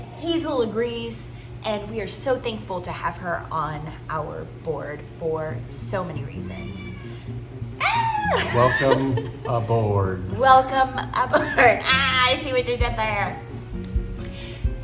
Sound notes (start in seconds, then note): 6.8 ahh!